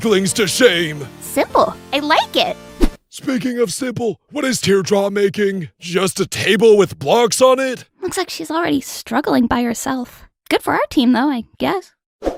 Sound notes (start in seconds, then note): none